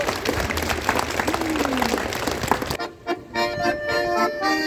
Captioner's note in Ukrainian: оплески